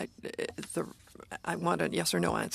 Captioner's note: speaking French